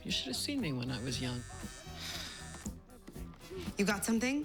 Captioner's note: cellphone vibrates